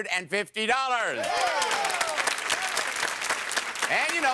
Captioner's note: audience applause